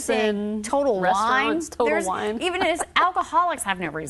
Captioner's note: laughs